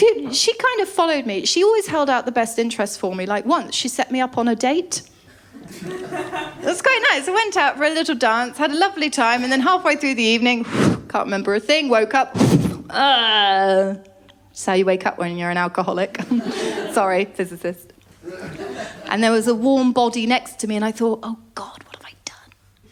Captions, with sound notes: She kind of followed me. She always held out the best interest for me. Like once, she set me up on a date. [LAUGHTER] It was quite nice. I went out for a little dance, had a lovely time and then halfway through the evening... [WHOOSH] can’t remember a thing. Woke up. Eugh. That's how you wake up when you're an alcoholic. Sorry, physicist. And there was a warm body next to me and I thought, “Oh, God, what have I done?”